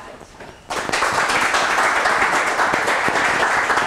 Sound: applause

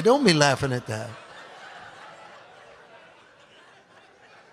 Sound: audience laughs

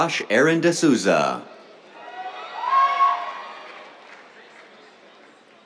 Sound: cheers, applause

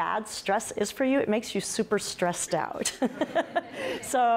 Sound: laughs

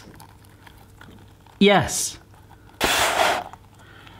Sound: gasping

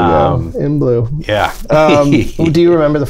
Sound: laughter

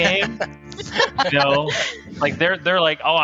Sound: laughing

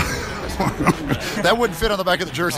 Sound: laughter

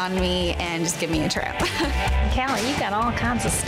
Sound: laughs

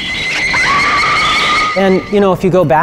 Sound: screaming

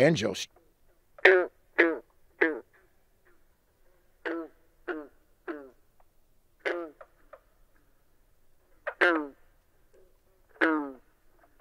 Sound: green frog call

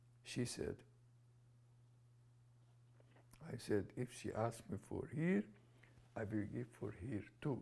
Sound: pauses for 3 seconds

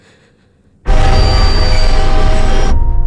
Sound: train Screech Sound Effect

